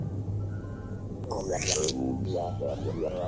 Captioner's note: mimics radio-static